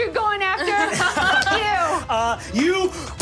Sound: laughing

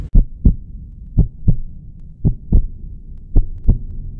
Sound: heart beat

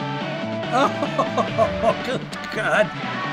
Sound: laughs

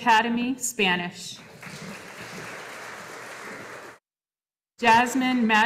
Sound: audience applauding

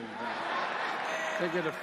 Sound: laughter

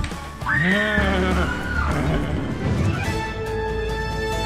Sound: screams; man growls; adventurous music

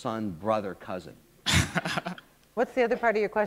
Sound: laughter

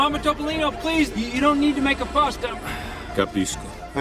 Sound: sighs; speaking in foreign language

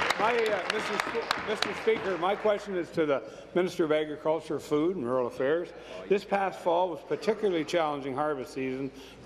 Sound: applause

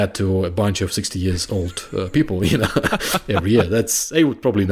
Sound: chuckling

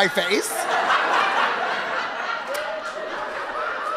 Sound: audience laughing

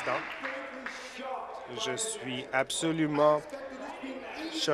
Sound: applause

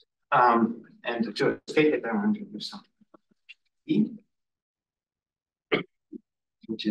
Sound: audio distorting

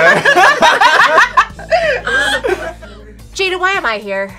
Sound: all laughing

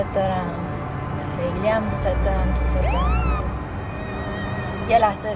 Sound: police siren

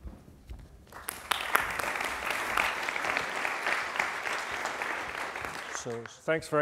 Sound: applause

